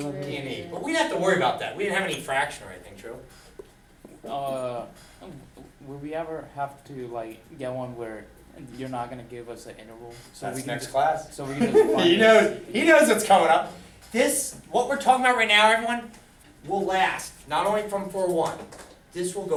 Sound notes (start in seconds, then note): 11.5 laughter